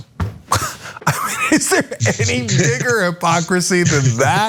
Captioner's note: laugh